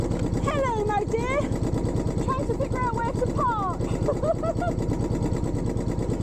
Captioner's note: laughing